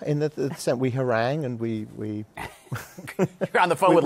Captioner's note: laughs